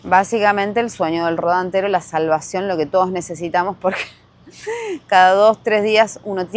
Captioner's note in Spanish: risas